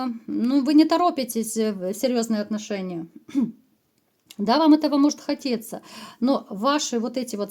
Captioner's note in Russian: откашливается